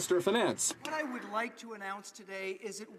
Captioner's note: some Applause